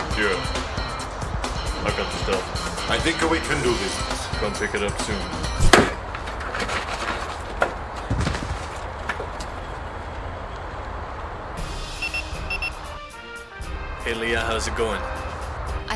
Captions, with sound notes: - Yeah. I got the stuff. - I think we can do business. - Come pick it up soon. (Board thudding) (Communicator beeping) - Hey, Lea, how's it going?